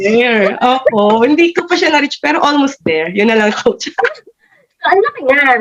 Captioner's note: both laughed